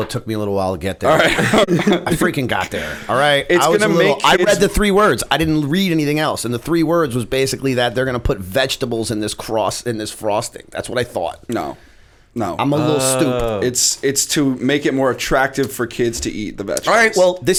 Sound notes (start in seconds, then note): 1.1 laughter